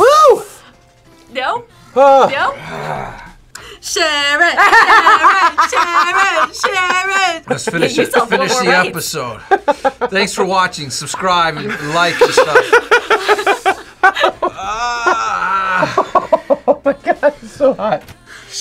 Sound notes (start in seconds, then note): 2.0 grunts; 4.2 laughs; 12.6 laughs; 14.4 groans; 16.1 laughs